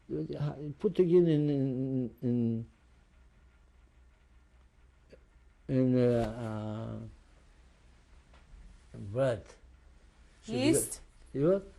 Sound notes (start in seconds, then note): 6.3 pauses for 3 seconds